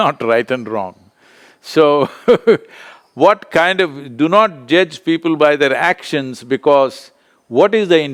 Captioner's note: laughs